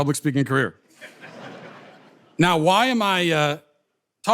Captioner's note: audience laughter